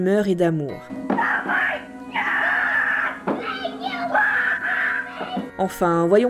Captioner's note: screams